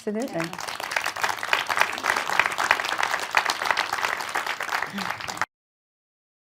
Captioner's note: applause